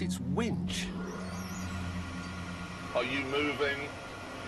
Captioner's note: whirring